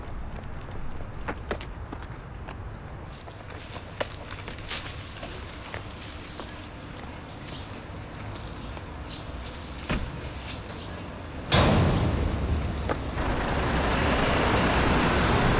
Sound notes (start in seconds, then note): none